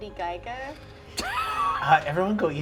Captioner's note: laughter